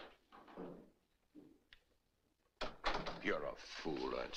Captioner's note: door Closes